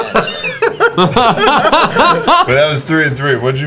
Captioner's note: laughter